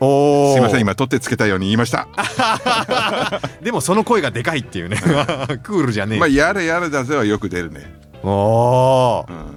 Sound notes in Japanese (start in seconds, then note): 2.1 笑い